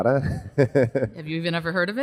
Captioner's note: laughs